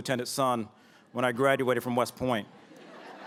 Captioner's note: laughter